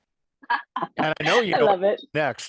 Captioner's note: laugh